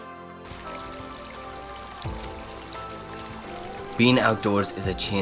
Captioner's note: stone skipping on water